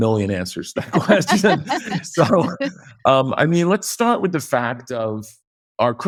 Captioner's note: laugh